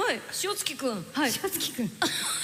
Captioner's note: chuckles